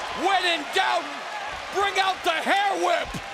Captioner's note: cracking